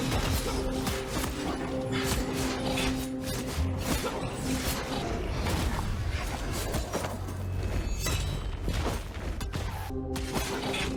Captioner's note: intense battle noises